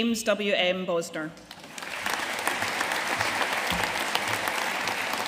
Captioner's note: audience applauding